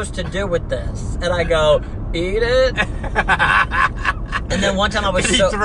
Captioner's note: laughs